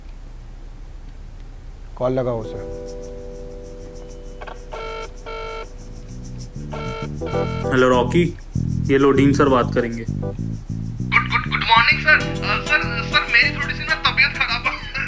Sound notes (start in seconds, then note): 4.6 phone ringing